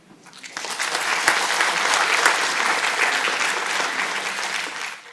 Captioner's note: audience applauding